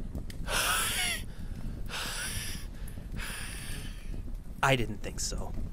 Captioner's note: wheezing